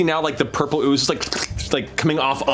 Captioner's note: squirting